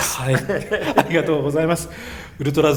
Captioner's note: laughs